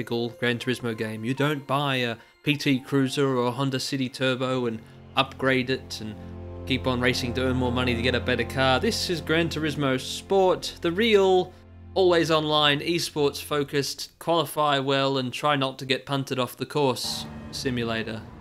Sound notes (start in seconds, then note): none